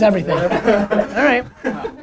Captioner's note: laughter